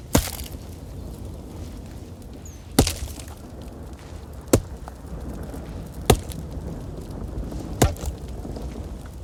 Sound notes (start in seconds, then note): 3.3 storm continues